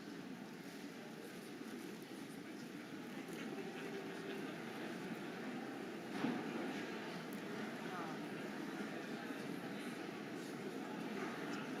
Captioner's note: audience murmuring